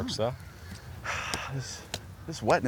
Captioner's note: exhales